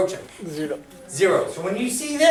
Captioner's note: voiceover